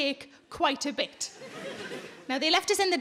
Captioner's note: audience laughing